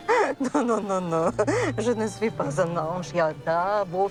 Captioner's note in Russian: Говорит по-французски